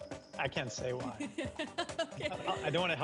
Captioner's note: laughter